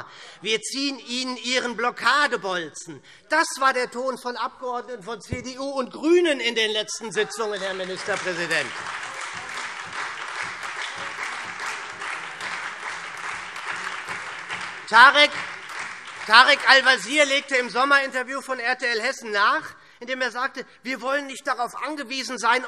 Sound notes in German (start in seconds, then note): 8.8 Beifall SPD und Freie Demokraten